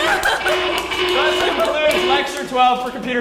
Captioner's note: applause